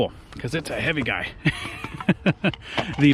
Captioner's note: chuckles